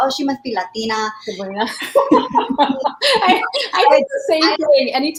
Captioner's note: laughter